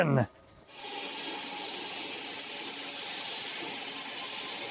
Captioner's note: saw buzzing